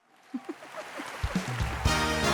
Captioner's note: audience applauds; Chelsea chuckles; dramatic music